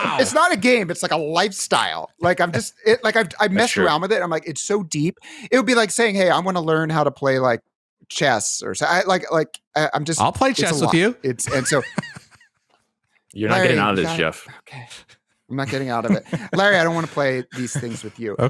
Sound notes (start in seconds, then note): 11.4 laughter